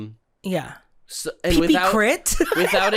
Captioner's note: giggling